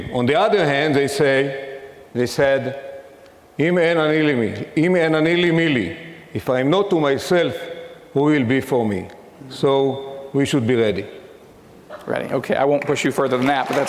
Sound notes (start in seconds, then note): 3.6 speaking in foreign language